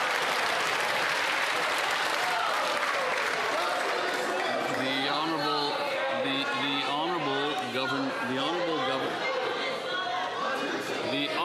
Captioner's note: some Applause